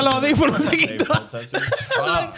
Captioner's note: speaking In Foreign Language